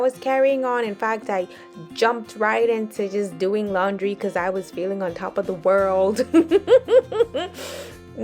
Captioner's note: laughs